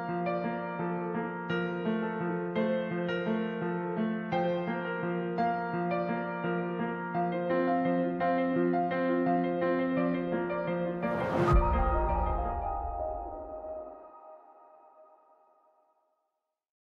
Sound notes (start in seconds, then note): 10.9 bright music; 11.0 air whooshes